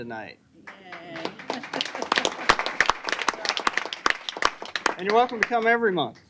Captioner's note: cheering and Applause